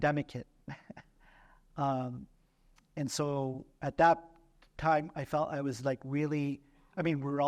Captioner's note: laughter